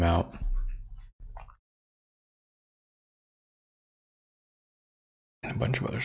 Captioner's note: blank Audio